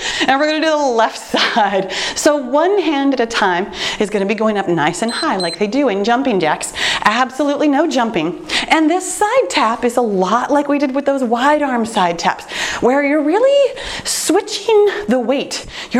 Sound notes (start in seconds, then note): 5.0 timer beeps